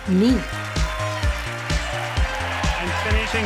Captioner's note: audience cheering; audience applauding